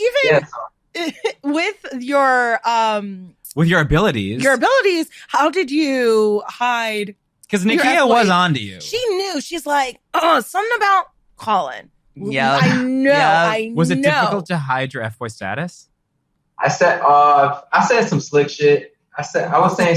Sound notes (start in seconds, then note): 0.1 laughs; 3.9 all laughing